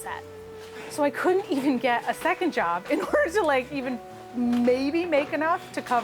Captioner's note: laughs